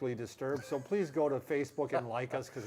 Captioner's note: laughs